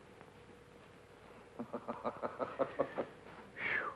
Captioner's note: George chuckling